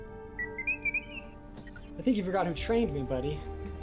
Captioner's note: R7 chirping on comlink